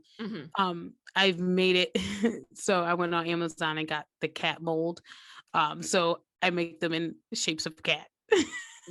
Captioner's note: chuckle